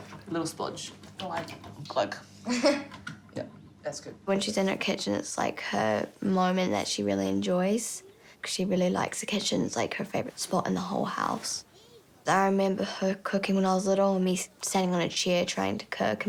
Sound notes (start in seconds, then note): 2.4 laughs